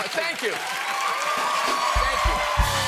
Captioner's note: cheers and applause